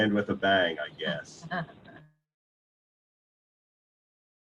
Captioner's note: chuckling